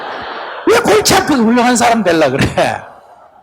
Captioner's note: Sunim/Audience Laughter